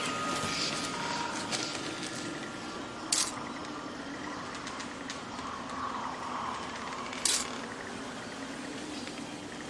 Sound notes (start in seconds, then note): 3.1 camera shutter clicks; 6.5 camera shutter clicks